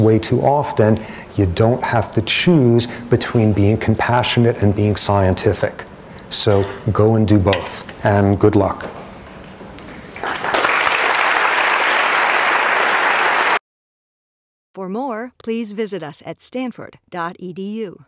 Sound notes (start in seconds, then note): 10.1 applause